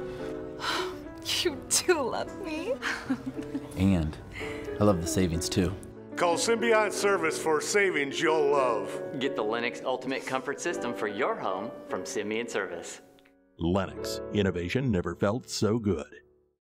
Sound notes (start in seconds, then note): 2.8 giggling